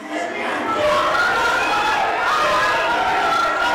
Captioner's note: women fuss